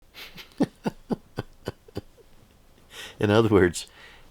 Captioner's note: laughing